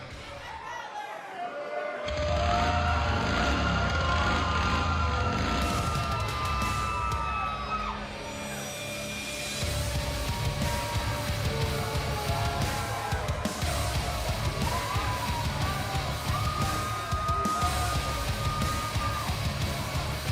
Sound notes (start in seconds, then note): 2.2 engine revving